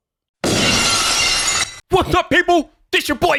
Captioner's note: glass breaking